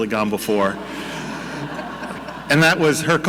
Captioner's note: audience laughing